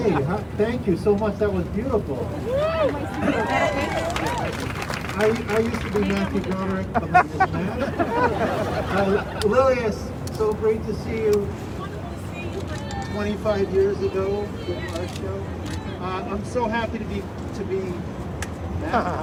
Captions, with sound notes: - Hey, thank you so much, that was beautiful. (crowd cheering) I used to be Matthew Broderick. (crowd laughing) Lilias, it's so great to see you. - It's wonderful to see you. - 25 years ago... I'm so happy to be, is this back?